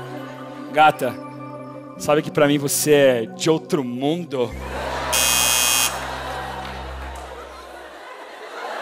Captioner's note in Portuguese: campainha